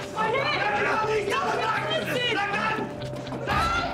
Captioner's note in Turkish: Bağırışmalar